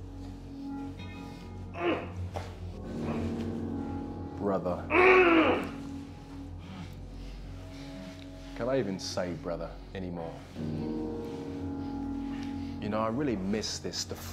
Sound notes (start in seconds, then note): 2.1 grunts; 4.8 grunts loudly